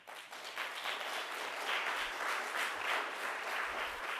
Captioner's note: crowd applauds